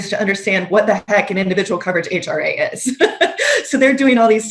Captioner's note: laughs